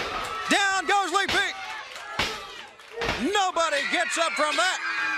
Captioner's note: crowd cheering